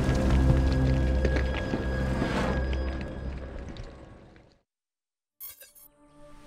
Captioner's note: eerie music; fire crackling